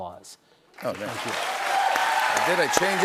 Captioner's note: applause